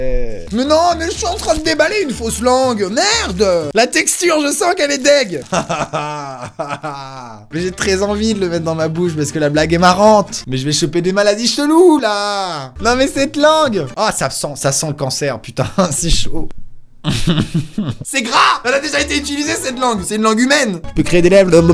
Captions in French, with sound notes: mais nan mais j'suis en train de déballé une fausse langue merdeuuh la texture, je sens qu'elle est dég' *rire nerveux* mais j'ai très envie de le mettre dans ma bouche parce que la blague est marrante mais j'vais chopper des maladies cheloues là nan mais cette langue ahh ça sent, ça sent le cancer putain c'est chaud C'EST GRAS mais elle a déjà été utilisé cette langue, c'est une langue humaine j'peux créer des lèvres